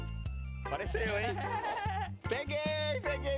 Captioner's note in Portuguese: risos